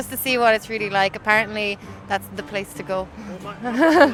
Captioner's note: laughs